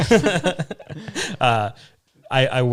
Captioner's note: all laughing